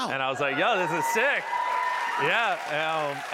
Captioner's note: cheers and applause